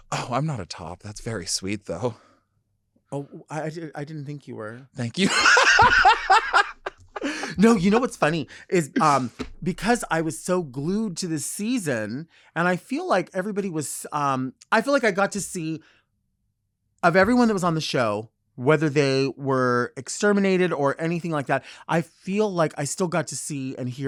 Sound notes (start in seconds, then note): 5.2 laughing